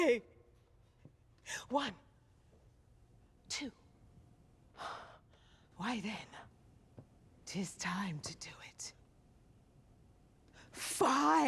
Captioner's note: sighs